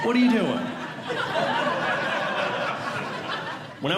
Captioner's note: audience Laughing